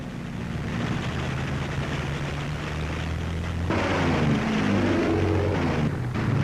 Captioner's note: plane engines roar